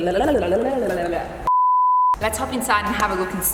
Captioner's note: beep!